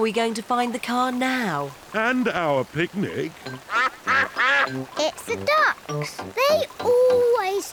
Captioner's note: quacks